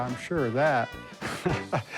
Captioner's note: laughs